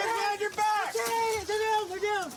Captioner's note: screaming